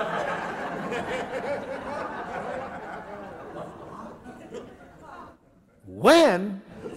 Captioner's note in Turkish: Gülüşmeler